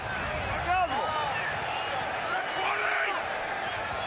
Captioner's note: shouting